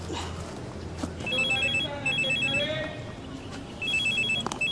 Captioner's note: phone ringing